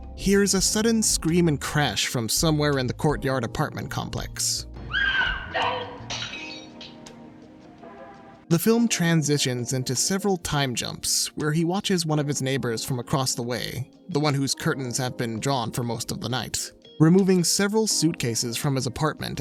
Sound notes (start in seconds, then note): 4.8 screaming; 5.4 glass shattering